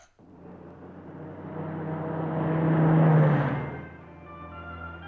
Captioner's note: car driving, radio on